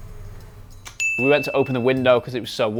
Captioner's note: bell dings